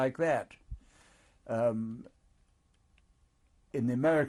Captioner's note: pauses for 3 seconds